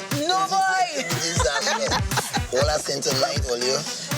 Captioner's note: laughing